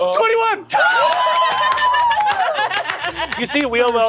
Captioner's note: players laugh and cheer